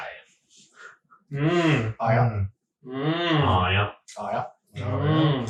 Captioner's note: all making dumb noises